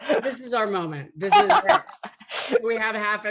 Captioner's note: laughing